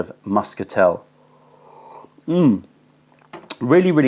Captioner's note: sips tea